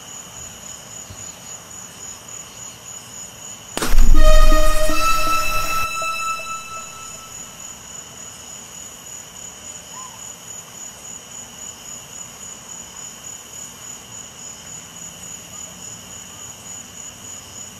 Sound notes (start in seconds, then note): 3.8 balloon pops; 3.8 eerie ambient music